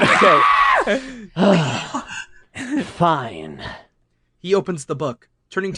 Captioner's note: Rouge screams; sighs